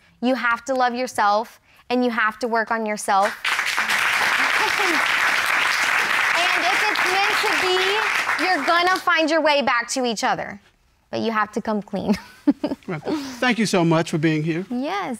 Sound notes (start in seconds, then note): 3.2 audience applauding; 12.1 chuckles